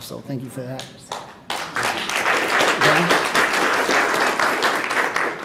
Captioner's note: audience and panel applauding